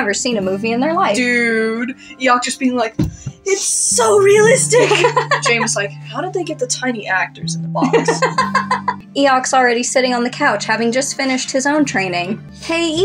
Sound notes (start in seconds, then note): 4.6 laugh; 7.8 laugh